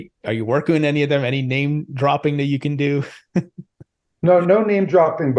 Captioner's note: chuckles